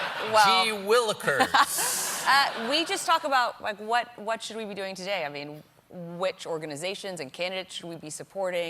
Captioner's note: laughter